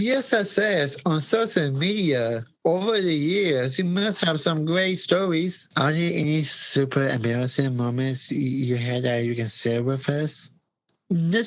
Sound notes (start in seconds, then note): none